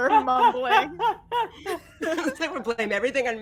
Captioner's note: all laughing